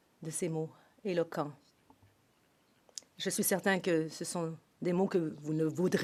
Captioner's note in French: voix de l'interprète